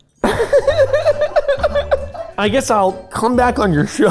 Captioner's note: laughing